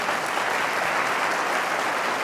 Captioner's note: applause